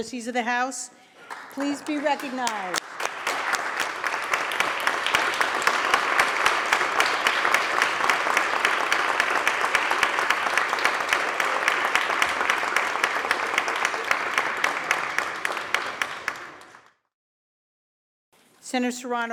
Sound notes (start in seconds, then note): 3.5 applause